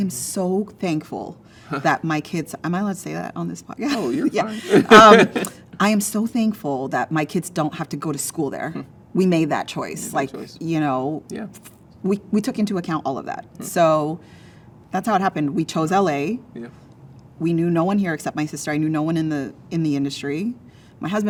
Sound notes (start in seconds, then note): 3.8 laughs